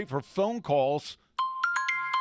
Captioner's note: sound of iPhone ringtone